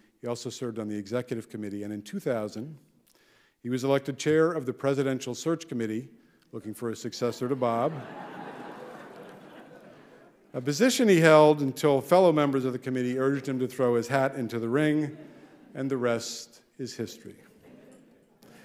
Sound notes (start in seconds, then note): 7.4 audience laughing